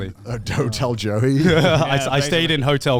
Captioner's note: chuckles